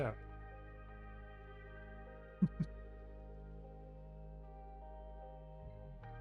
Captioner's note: chuckles